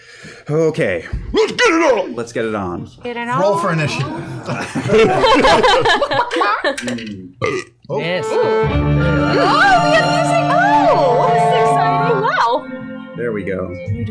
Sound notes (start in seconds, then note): 4.0 laughter